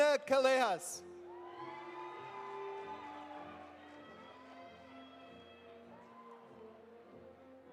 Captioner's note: audience cheering; audience applauding